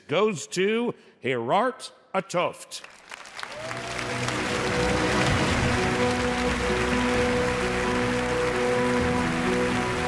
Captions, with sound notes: goes to Gerard 't Hooft. (dramatic music) (audience cheers)